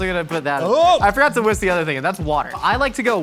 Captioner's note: exclaims